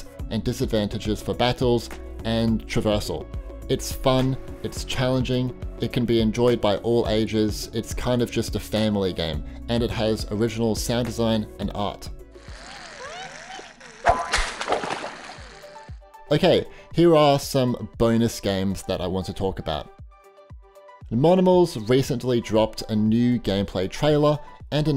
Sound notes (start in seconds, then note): 12.4 low whirring; 12.5 creature cooing; 14.0 sharp whacking